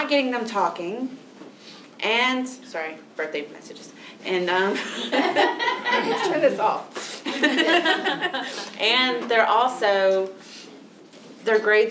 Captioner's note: laughter